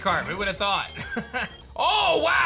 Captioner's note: chuckles